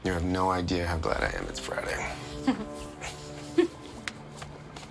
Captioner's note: laughs